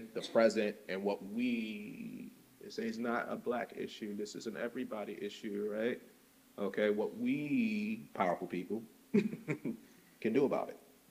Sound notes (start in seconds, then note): 9.1 chuckles